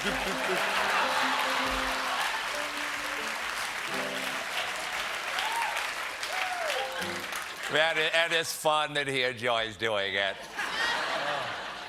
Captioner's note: applause; piano riff